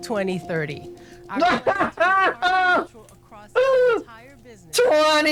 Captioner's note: laughing in empty environmental promises